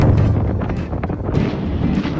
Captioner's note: sudden strong wind